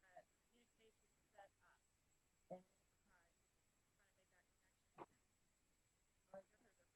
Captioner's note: silence